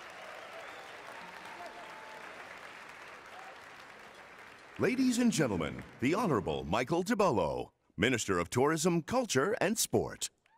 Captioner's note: cheering and Applause